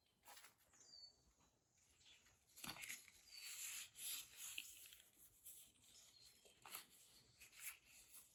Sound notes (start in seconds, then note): 3.2 leaf rustling